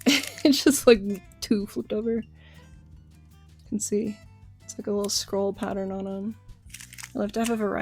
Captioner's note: laughing